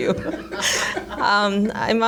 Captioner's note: laughter